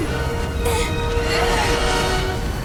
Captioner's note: grunting